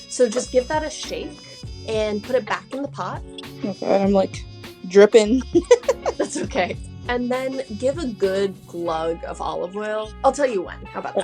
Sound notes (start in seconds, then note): 5.3 laughs